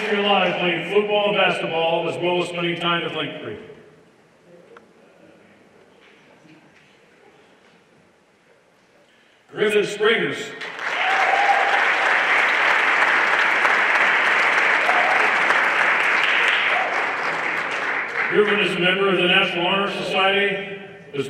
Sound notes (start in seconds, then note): 10.6 everyone applauding